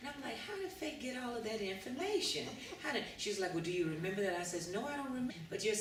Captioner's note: laughter